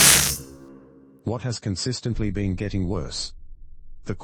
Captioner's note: electrical noise